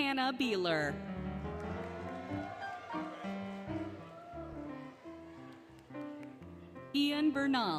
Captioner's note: applause, Cheering, Music